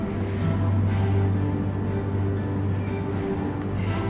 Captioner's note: Asher breathing heavily